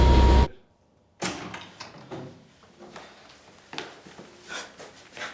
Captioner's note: door opening, Jan breathing